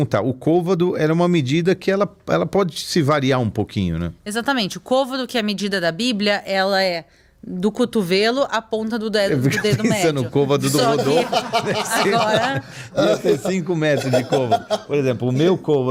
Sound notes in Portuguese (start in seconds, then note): 9.4 risadas